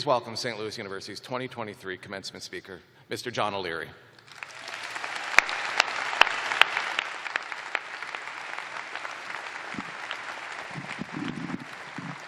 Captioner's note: cheers and applause